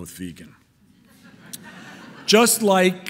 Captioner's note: audience laughing